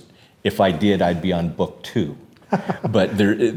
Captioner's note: laughs